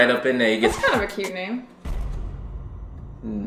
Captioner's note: record scratching